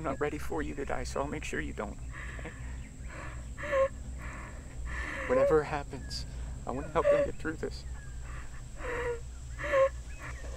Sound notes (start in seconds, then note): 3.1 Jack cries